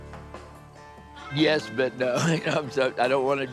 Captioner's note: laughs